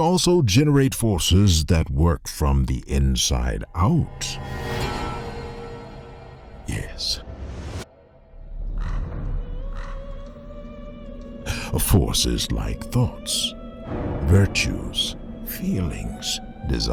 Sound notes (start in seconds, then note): 4.0 cinematic hit; 8.8 drums; 10.1 woman singing soprano